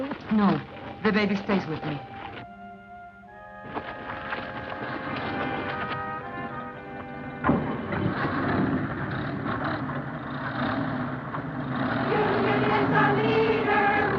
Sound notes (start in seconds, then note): 7.4 car door thuds; 8.6 car engines revving